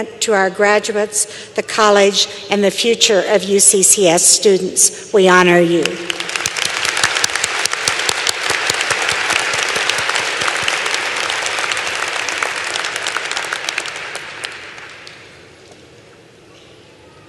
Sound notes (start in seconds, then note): 5.8 applause